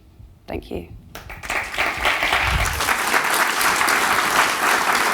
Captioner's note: audience applauding